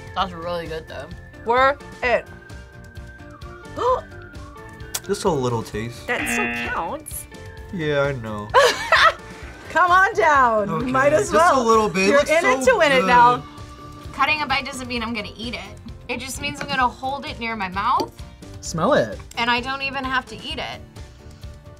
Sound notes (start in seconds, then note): 3.7 gasps; 6.1 buzzer; 8.5 laughs